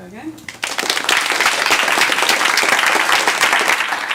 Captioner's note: applause